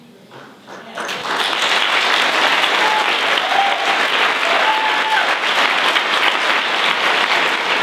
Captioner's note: applause